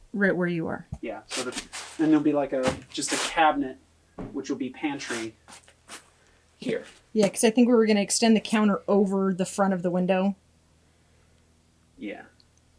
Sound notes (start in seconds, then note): none